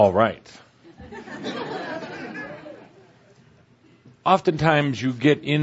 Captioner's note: laughter as Tobias refers to lyrics of a song that was just played